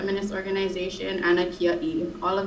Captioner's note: speaking in foreign language